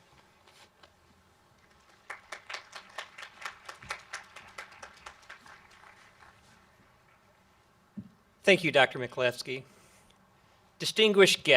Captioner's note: applause